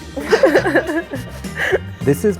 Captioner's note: laughs